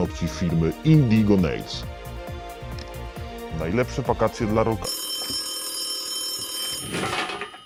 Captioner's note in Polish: dźwięk dzwoniącego telefonu